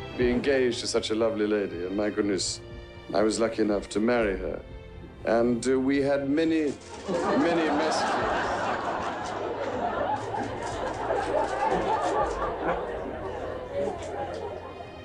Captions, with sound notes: Being engaged to such a lovely lady, my goodness, I was lucky enough to marry her and we had many, many- (audience laughing) (gentle symphony music)